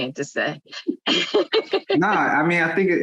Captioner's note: laughs